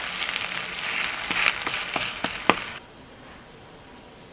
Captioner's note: tap tap tap